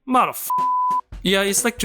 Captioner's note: beep